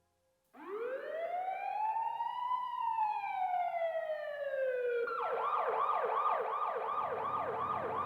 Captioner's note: police siren blaring